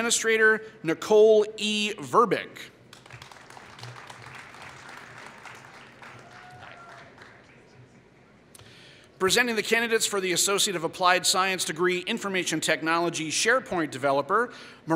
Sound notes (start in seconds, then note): 2.9 applause